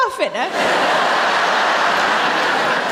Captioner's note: laughter